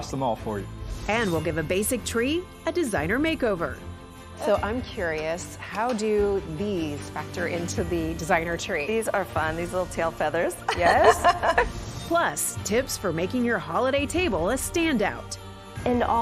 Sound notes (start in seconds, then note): 10.6 laughs